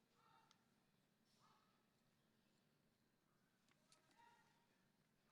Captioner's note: person yelling commands